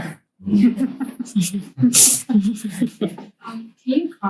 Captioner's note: students laugh